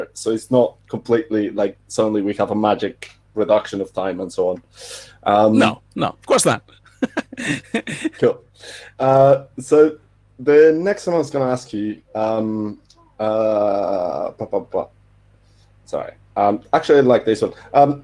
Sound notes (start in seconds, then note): 6.6 laughing